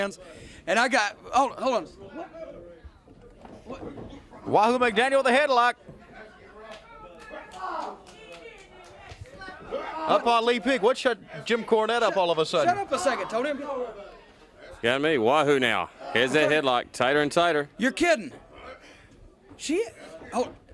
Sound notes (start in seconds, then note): 6.2 crowd chatter; 8.9 crowd chatter